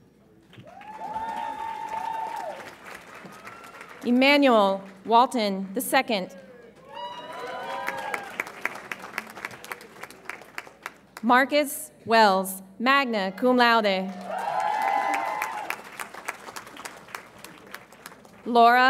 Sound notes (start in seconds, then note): 0.5 audience applauds and cheers; 6.8 audience applauds and cheers; 14.1 audience applauds and cheers